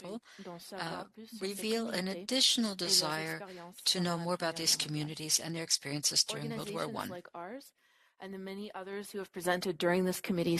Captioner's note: speaking French